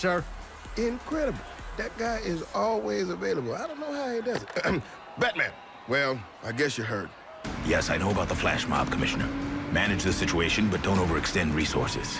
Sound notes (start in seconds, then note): 4.2 clears throat